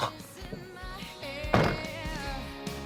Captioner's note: gags; car door closing; pop song